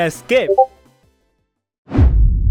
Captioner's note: Discord notification